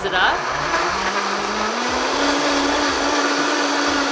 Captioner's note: blender whirring